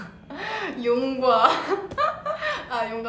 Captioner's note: laguhs